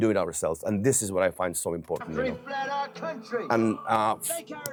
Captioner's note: speech continues